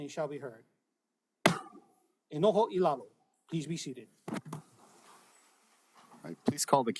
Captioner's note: gavel bangs once